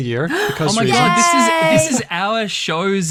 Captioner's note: gasps